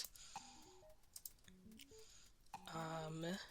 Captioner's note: mouse Clicking